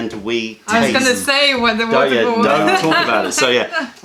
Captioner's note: laughter